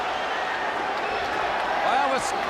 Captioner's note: crowd chatter